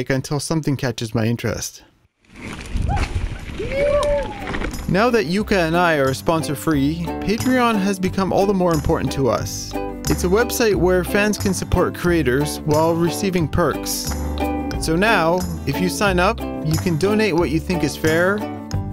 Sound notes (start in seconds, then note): 2.2 gravel rustling